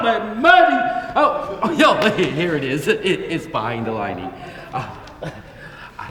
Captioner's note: audience laughs softly